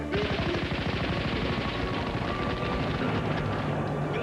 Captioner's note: gunfire